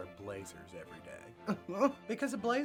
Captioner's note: chuckles